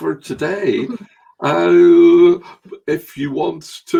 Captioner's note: chuckles